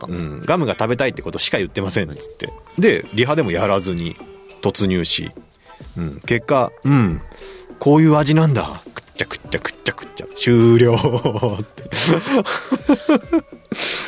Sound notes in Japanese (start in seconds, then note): 0.0 笑い; 7.9 鼻息; 10.6 笑い